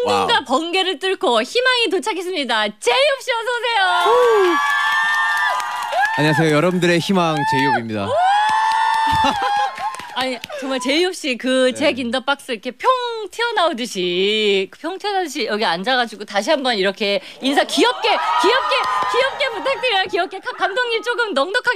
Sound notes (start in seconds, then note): 8.2 clap